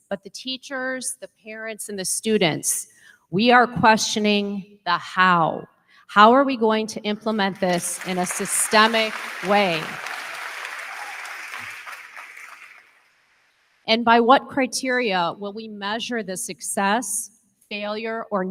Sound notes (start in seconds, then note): 9.6 crowd cheering; 9.6 crowd clapping